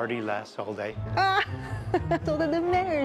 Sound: laughing

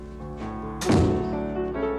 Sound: door closes

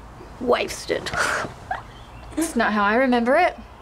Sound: Saffron scoffs

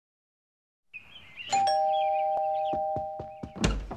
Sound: ding dong

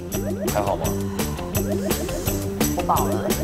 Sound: A sigh

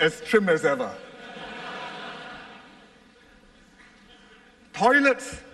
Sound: laughter

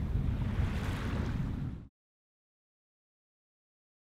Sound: ocean waves

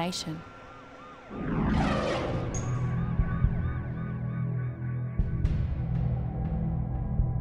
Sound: ambulance siren

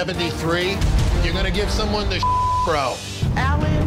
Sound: beep

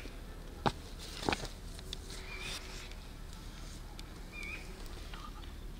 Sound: sound of birds

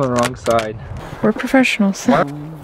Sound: sarcasm

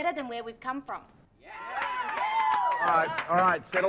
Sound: students cheer and clap

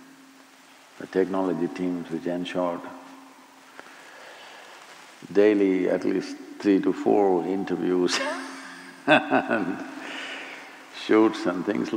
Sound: laughs

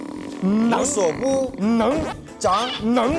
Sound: uses shouting to breach the wall

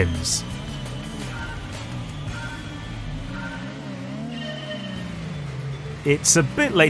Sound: klaxon

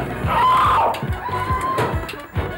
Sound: shrieks

